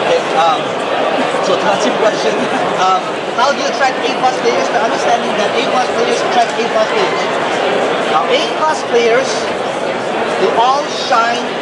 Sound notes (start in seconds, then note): 1.0 laughs